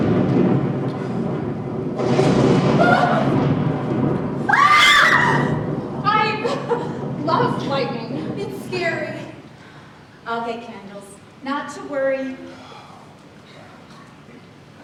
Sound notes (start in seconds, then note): 4.4 children scream; 9.5 rain pours down